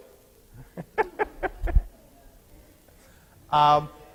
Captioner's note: laughing